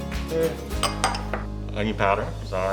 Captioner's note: glass clinks